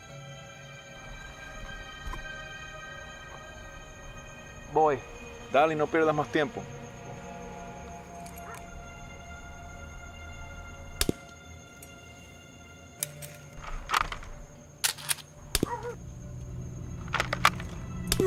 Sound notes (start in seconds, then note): 11.0 sounds of bullets coming out of silencer